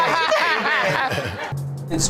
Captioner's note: laughing